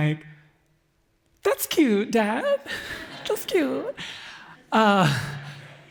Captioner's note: excited Voice